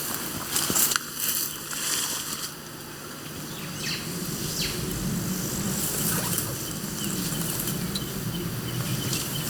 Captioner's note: birds chirping